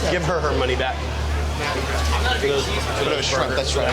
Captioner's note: chatter